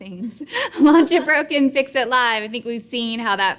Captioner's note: laughing